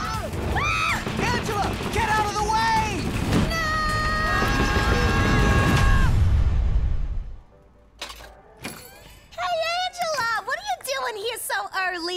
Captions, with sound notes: (screaming) - Angela, get out of the way! - No! (yelling) (door opens) - Hey, Angela, what are you doin' here so early?